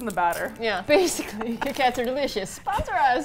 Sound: laughs

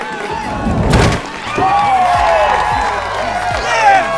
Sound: smashes

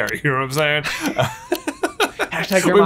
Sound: laughing

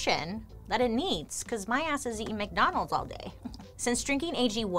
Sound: chuckles

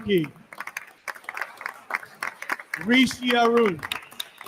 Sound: attendees continue applauding

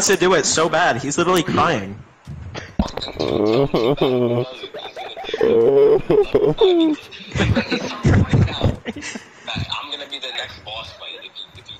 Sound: cries

